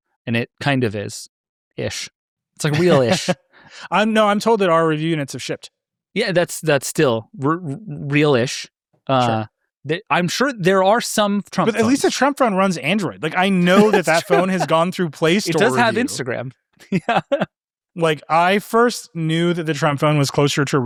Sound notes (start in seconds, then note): 2.7 laughing; 16.8 laughing